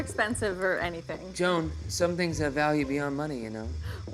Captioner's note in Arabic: دوران الكاميرا